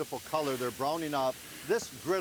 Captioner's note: vegetables sizzling